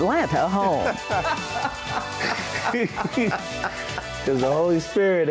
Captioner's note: laughter